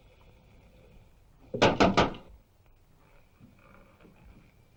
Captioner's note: knocking